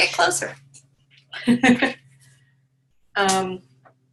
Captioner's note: chuckling